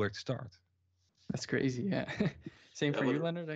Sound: chuckles

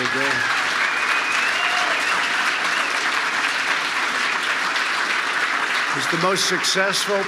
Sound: applause

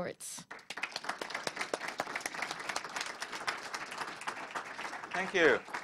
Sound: applause

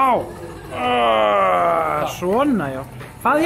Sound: grunts

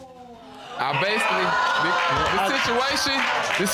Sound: audience exclaiming

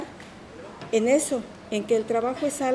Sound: speaking in Spanish

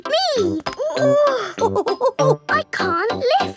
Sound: chuckles; straining

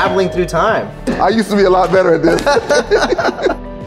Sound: laughter

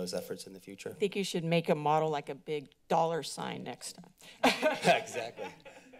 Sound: laughter

